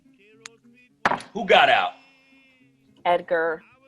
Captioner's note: slam of glass